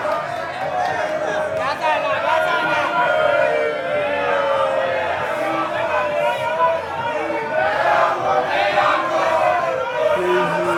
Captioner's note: chanting